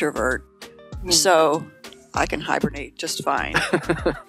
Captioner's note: laughing